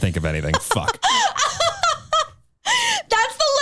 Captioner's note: chuckles